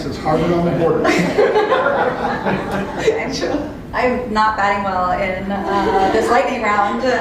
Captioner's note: laugh